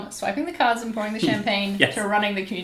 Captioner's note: laughs